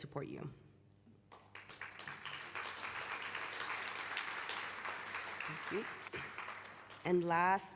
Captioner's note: applause